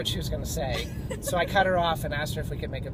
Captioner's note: laughs